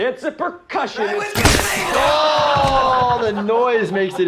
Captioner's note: slap; jackass crew laughing